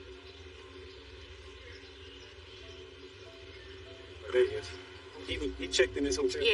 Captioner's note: birds c chirping faintlint; wind ind blowing subtlyl